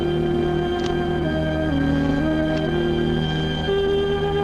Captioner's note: clicking